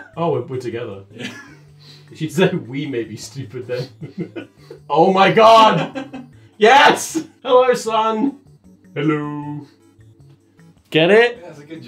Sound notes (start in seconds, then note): 3.7 laughs